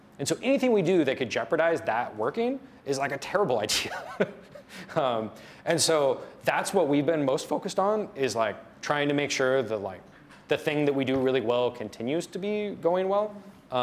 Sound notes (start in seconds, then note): 3.7 laughs